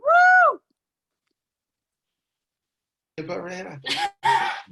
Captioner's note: cheering